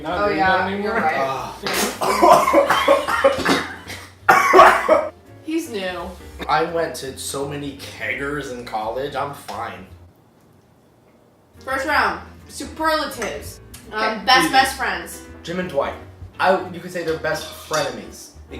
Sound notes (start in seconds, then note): 1.6 choking; 10.5 silence